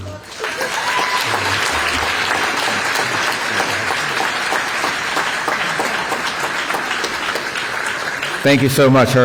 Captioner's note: applause